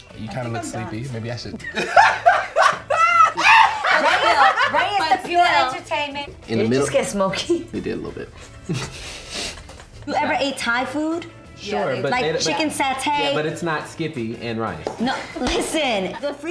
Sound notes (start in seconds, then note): 0.2 laughing; 8.4 giggling